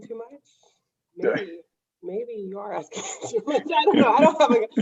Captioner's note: laughs